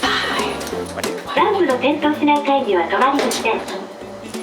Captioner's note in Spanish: habla en idioma extranjero